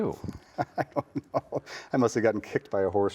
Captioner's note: chuckling